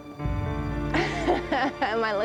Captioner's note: laughs